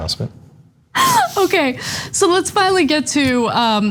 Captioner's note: laugh